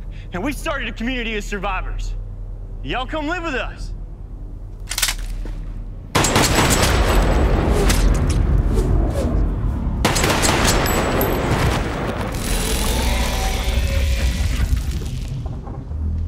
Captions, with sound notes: Yeah, we started a community of survivors. Y'all come live with us. (gun cocks) (gun fires) (gun fires again)